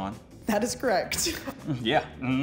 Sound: laughs

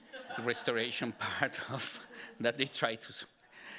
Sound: audience laughing

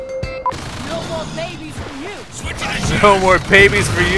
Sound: voiceover

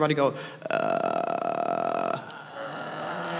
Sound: low growling sound; audience and panel mimics sound

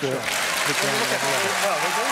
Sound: cheering drowns out speech

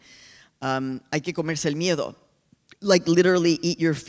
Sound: speaking spanish

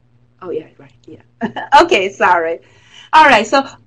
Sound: laugh

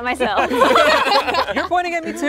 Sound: laughing

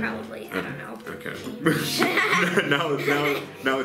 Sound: laughs

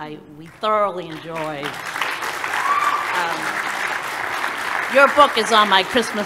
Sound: applause

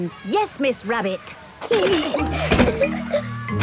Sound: giggling

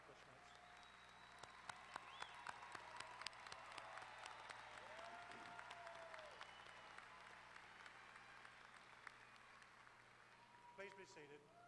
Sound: applause

